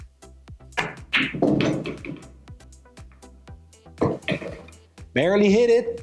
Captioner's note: pool balls clacking and thudding